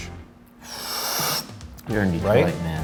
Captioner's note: inhales